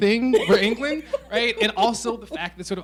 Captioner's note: laughing